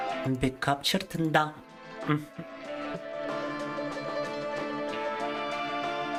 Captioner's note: speaking in foreign language